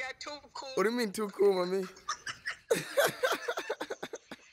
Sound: laughs

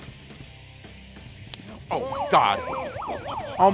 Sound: slaps

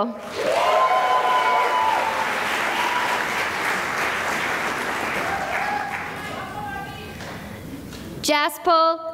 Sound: cheering and applause

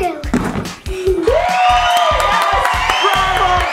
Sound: dad cheering

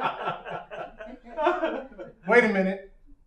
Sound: laughing

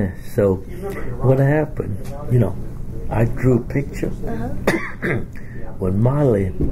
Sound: coughs

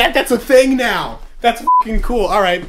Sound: beep

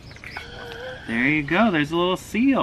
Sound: gasps

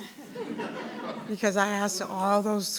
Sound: attendees chuckle

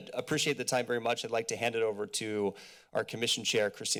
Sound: inhales

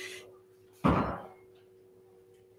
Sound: door slams

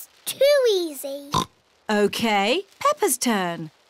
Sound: oinks

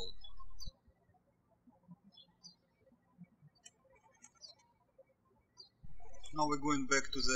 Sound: birds chirping

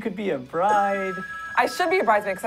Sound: ring

